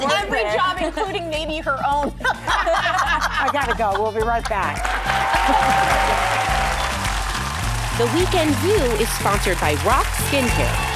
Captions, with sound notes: Which is every job, including maybe her own. (laughing) I gotta go, we'll be right back. (audience applauding) The Weekend View is sponsored by Rock Skincare.